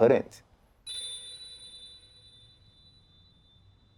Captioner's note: bell chiming